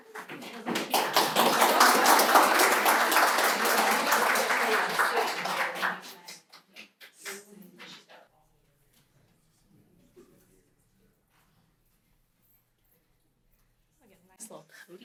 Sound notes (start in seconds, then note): 1.7 applause